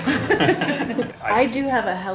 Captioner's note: all chuckle